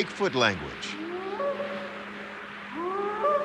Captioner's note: short howls